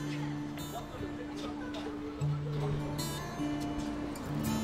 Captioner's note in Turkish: Sokak ortam sesi